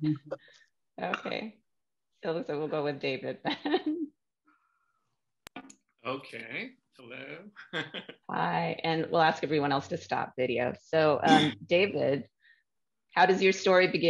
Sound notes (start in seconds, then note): 3.4 laughter; 6.0 laughter